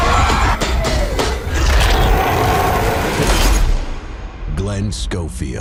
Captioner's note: monster shrieks